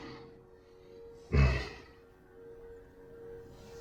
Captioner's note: grunts